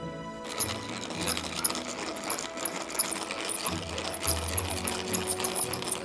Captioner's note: butter churn squeaks